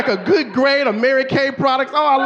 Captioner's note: audience laughing